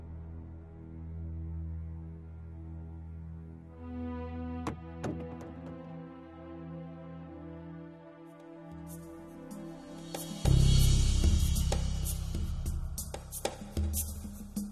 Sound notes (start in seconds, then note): 4.6 thumping on door; 11.2 moody hand drum instrumental